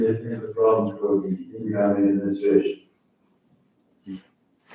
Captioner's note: faintly speaking